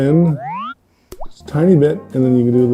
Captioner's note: Super Mario 64 zooming sound effect